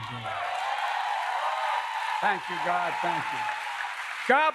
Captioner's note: applause